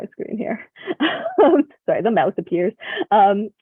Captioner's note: laughs